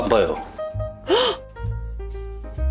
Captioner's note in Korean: 놀라는 숨소리